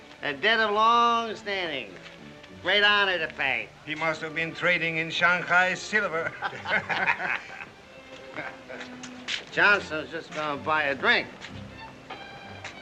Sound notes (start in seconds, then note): 6.2 all chuckling; 12.5 soft music